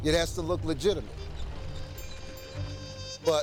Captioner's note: whirring of sewing machines